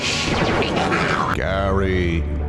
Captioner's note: Zorak cackling